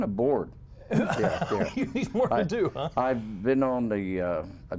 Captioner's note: laughter